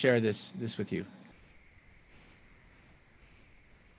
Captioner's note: Spanish